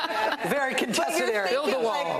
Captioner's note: laughter